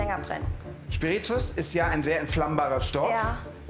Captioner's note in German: none